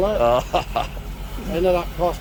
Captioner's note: laughing